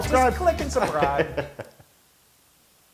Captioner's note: laugh